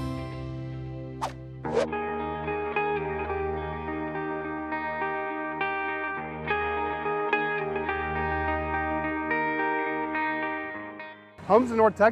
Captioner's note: whoosh